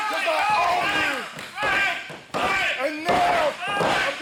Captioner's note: crowd chanting fight